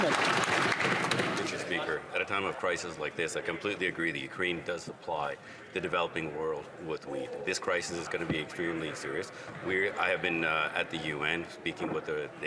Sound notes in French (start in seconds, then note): 4.0 voix de l'interprète